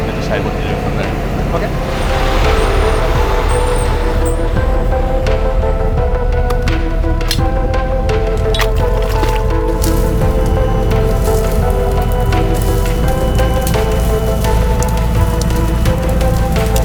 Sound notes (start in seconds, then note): 2.3 tow truck breaks squeaking; 2.3 tow truck rumbling; 5.3 ominous instrumental music continues; 8.5 clamp clanging; 9.3 water splashing; 10.5 tree branches snapping; 12.9 tow truck winch whirring